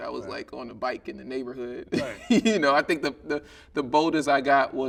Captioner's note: chuckling